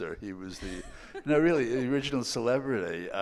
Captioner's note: laughing